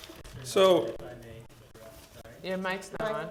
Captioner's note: speaking quietly